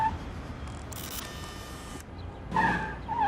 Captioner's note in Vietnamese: tiếng camera